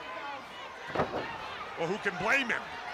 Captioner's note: crowd chatter